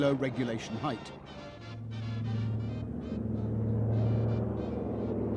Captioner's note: plane humming, marching band